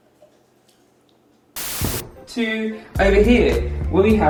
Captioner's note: static